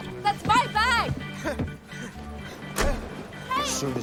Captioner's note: panting